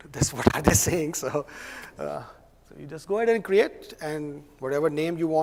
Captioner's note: laugh